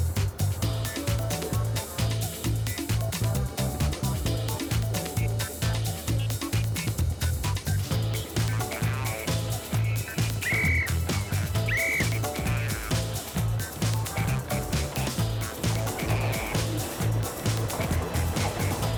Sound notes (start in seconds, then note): 10.5 whistle tweeting; 16.0 train rumbling